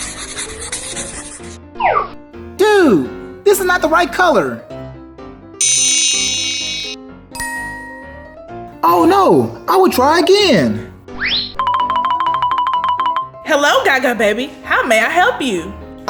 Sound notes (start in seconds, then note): 5.6 futuristic zapping; 7.1 magical ting; 11.7 alternating high-pitched piano keys